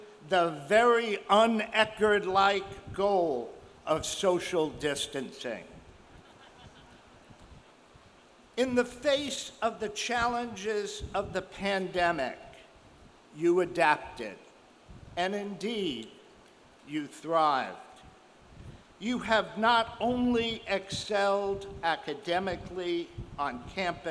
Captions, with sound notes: the very un-Eckerd like goal of social distancing. (audience member laughs) In the face of the challenges of the pandemic, you adapted and, indeed, you thrived. You have not only excelled academically on campus,